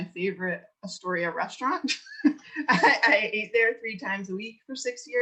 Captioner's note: laughs